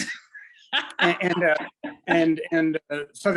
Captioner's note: laughs